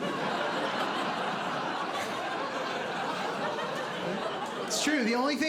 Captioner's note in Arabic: ضحك